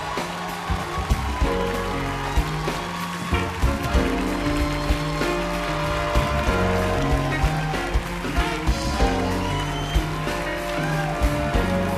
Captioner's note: applause